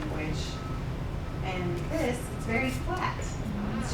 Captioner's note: none